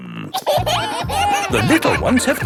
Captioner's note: kids giggling